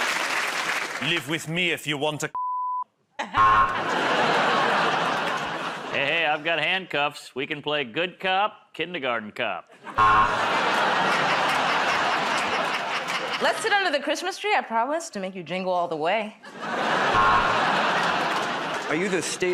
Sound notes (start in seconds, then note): 0.0 cheers and applause; 3.3 buzzer; 3.6 laughter; 9.9 buzzer; 11.8 laughter; 17.1 buzzer